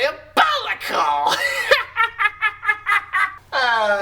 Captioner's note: evil laugh